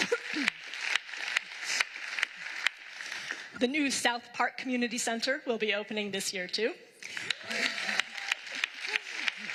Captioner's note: applause